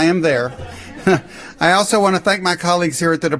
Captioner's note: laughter